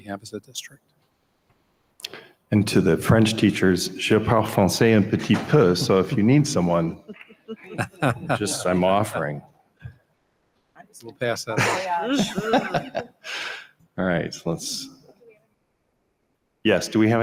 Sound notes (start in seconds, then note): 4.2 speaking in French; 9.8 members laughing